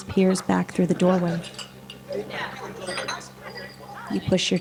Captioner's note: background chattering; silverware clanking